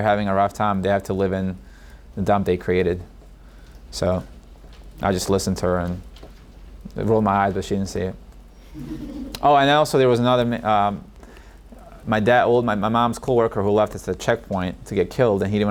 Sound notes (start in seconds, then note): 8.7 audience laughs